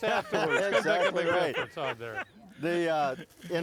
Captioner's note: laughing